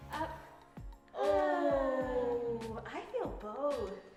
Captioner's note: groaning